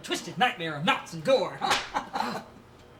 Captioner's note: slap